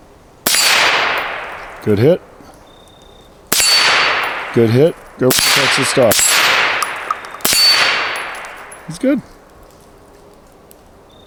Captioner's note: suppressed gunshots